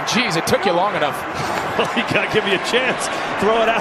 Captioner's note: chuckles